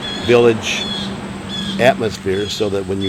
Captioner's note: bird chirping